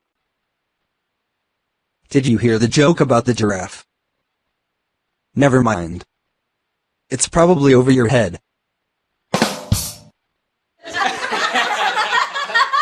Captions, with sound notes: - [Voiceover] Did you hear the joke about the giraffe? Never mind. It's probably over your head. (people laughing)